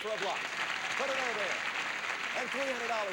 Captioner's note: audience applauding